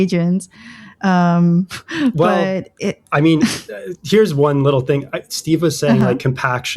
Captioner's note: laughter; uh